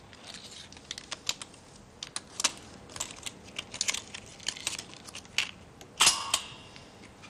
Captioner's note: sounds: Paper tape reader